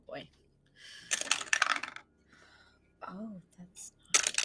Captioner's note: dice clacking